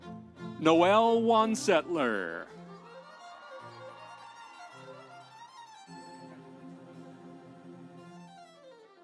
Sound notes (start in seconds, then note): 2.7 audience cheering; 3.1 instrumental music